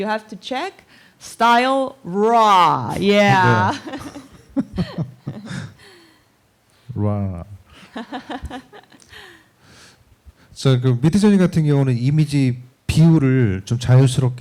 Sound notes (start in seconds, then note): 3.4 laughter; 7.9 laughs; 10.3 speaking korean